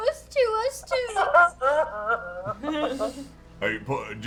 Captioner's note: fake crying